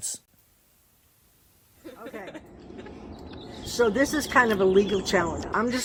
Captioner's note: bird sounds of Stanford campus